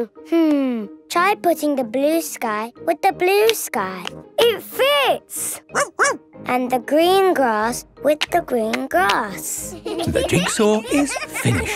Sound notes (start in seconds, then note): 5.7 barking; 9.7 laughter